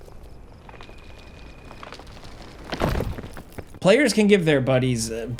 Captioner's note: crickets chirping